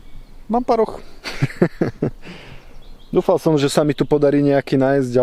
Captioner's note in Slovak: smiech